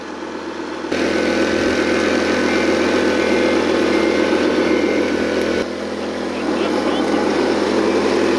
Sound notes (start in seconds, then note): 0.0 engine runs; 0.0 truck backs up